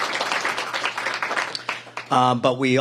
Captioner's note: applause